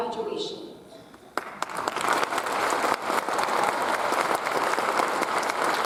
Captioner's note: audience applauds